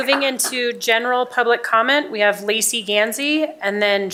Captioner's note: applause